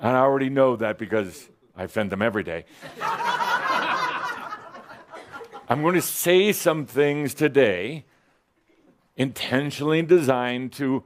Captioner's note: laughter